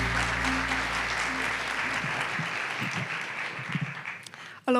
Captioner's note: applause